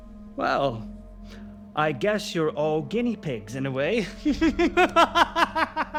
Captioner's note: laughs